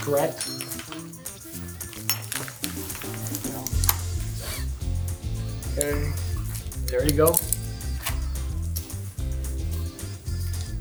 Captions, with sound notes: - Correct. (buckles clink) (upbeat music) (buckles clatter) Okay. There you go. (buckle clicks) (upbeat music)